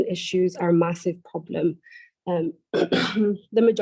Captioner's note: clears throat